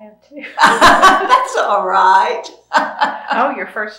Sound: laughter

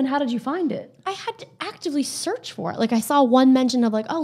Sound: none

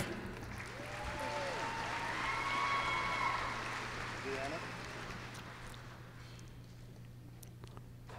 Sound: applause

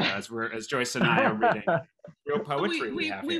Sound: laughter

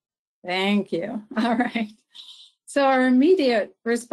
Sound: chuckles

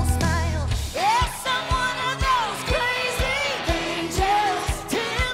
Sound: cheering

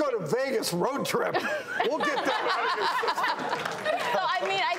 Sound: everyone laughing

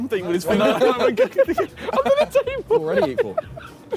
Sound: laughing

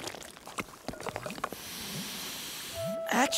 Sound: sniffing

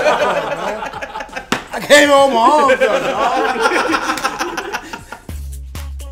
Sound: laugh

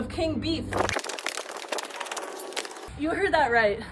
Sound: tape fast forwarding

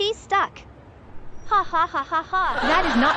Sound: lucy giggling

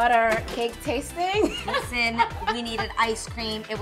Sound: laughing

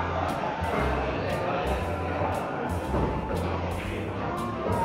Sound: crowd talking

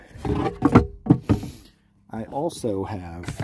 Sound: panel clatters

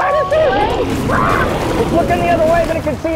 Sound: spinosaurus growls

